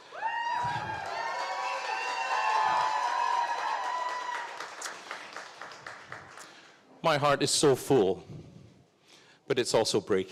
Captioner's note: cheers and Applause